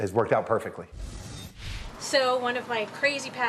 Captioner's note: swooshing sound